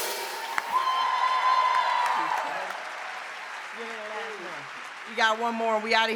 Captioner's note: audience continues cheering